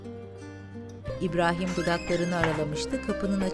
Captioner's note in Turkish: Kapı gıcırtısı sesi